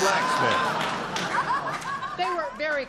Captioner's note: laughter